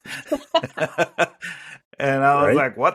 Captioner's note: group laughs